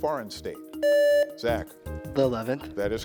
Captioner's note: contestant beeping